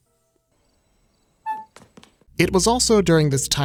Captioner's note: crickets chirping